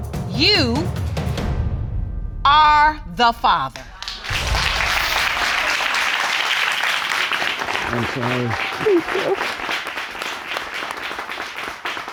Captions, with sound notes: you are the father. (AUDIENCE APPLAUDING) I'm sorry. Thank you.